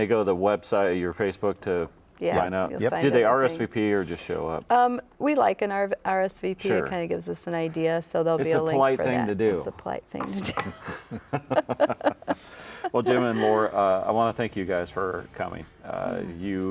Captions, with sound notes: - And they go to the website or your Facebook to sign up? - Yep. - Do they RSVP or just show up? - We like an RSVP. It kind of gives us an idea. - It's a polite thing to do. - It's a polite thing to do. (chuckling) - Well, Jim and Laura, I want to thank you guys for coming.